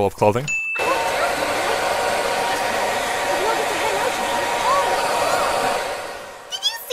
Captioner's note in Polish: Szum